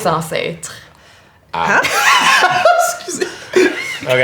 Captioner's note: bursts out laughing; Zara laughs